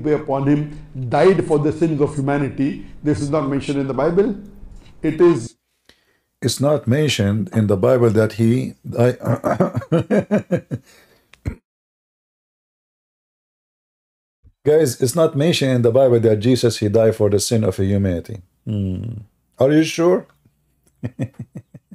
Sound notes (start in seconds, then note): 9.2 Ketawa